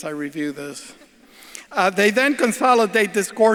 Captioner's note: audience laughs